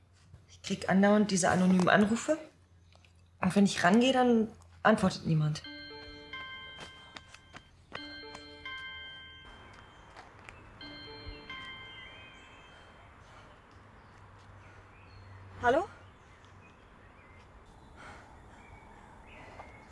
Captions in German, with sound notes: I keep on getting these anonymous calls. When I take the call, no one answers. [phone ringing] [heavy breathing] Hello?